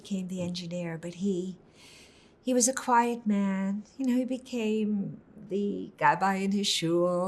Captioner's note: hebrew